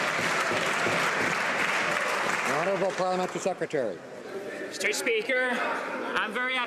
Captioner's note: some Applause